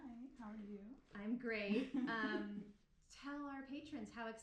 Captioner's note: giggling